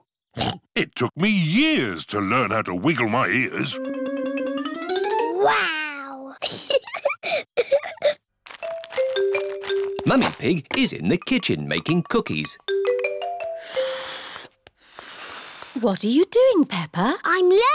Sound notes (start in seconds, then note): 0.2 snorts; 6.4 giggles; 13.7 failed whistle